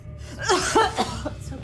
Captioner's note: Janet coughing